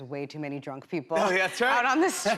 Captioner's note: normal voice